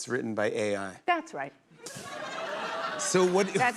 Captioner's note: laughter